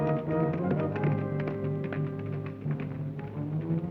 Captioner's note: hooves clop